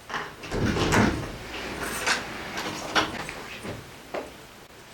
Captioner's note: door opening